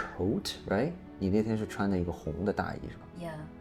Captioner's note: speaks foreign language